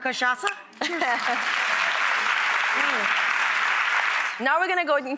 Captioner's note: audience applause